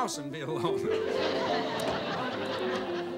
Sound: audience laughing

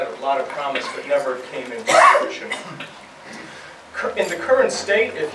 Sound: cough drowns out speaker

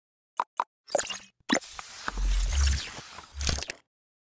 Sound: machinery whirring

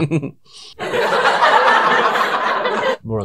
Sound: laugh Track

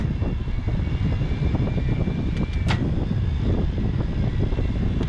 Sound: electric motor whining

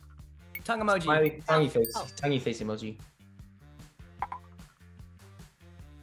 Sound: bell dings; bell dings

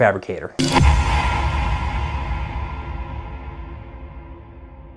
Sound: dramatic logo whooshing

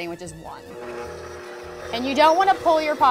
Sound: machine whirring

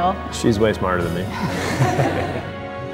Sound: laughter

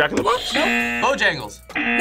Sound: buzzer

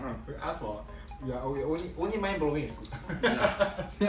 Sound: laughs

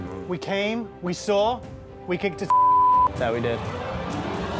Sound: beep

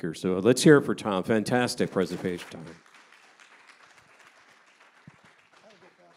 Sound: audience applauding

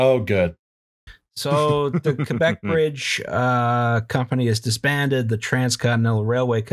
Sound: laughter

